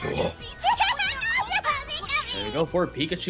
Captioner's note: Pikachu laughing